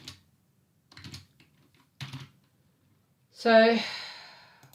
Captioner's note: keyboard clicks